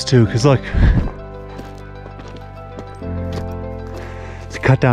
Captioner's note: footsteps crunching